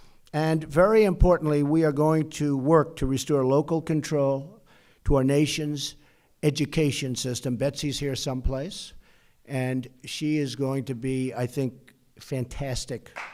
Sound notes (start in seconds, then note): 11.5 applause